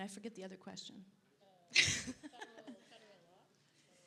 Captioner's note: laughs